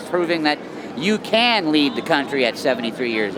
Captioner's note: none